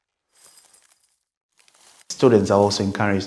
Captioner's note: sprinkles clatter into bowl